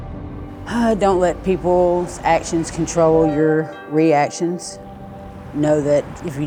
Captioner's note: sighs